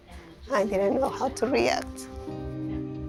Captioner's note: voice breaking